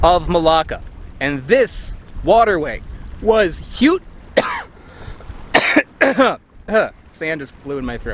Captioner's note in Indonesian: batuk